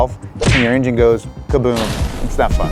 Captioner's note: exploding